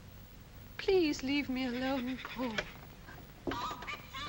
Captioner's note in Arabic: نهيق الماعز; الدمية تصدر صوتًا غريبًا